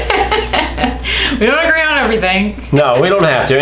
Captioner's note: laughs